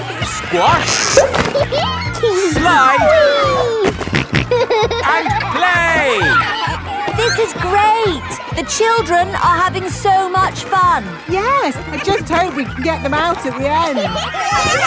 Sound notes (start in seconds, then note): 1.3 giggles; 3.7 snorting